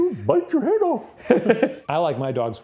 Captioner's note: laughs